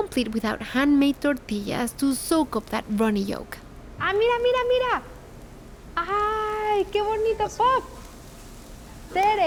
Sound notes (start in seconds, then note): 4.0 speaking Spanish